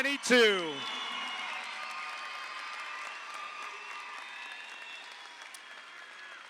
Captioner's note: audience applauds; audience cheers